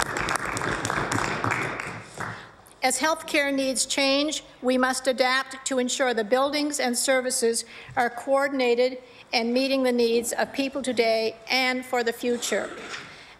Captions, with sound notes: [ APPLAUSE ] AS HEALTH CARE NEEDS CHANGE, WE MUST ADAPT TO ENSURE THE BUILDINGS AND SERVICES ARE COORDINATED AND MEETING THE NEEDS OF PEOPLE TODAY AND FOR